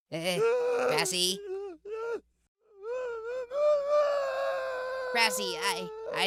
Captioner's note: grassy sobbing